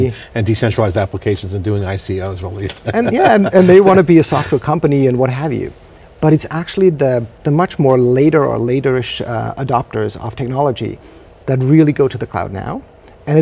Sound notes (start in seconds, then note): 2.7 laughs